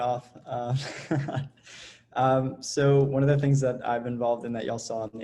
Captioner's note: laughs